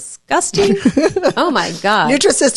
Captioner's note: laughs